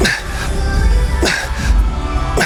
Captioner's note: grunting